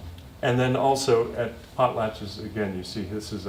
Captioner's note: non-english speech